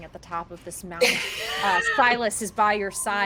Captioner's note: characters laugh